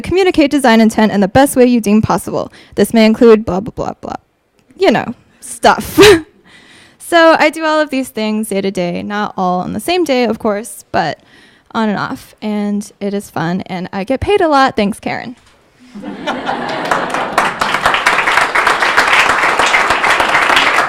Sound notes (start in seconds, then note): 15.8 audience laughing; 16.3 audience applauding